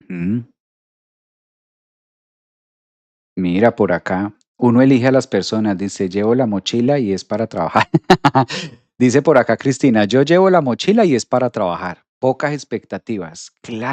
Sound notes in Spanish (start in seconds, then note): 7.7 risas